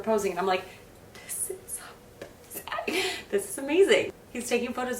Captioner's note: whispers